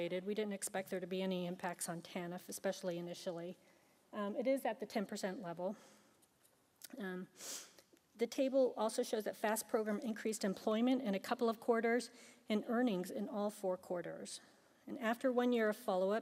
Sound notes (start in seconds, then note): 7.4 sniffs